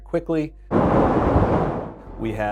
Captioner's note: water crashing